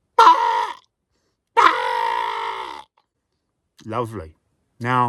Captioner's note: squawking